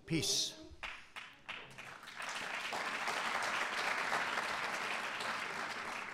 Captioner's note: applause